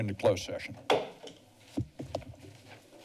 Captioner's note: gavel taps